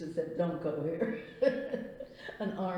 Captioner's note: laughs